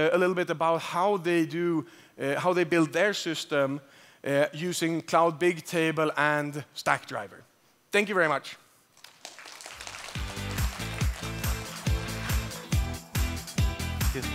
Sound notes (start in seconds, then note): 8.9 applause